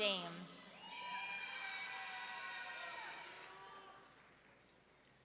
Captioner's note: audience cheering